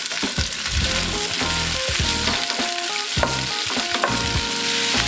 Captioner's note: sizzling sounds